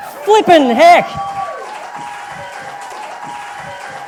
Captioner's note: audience applause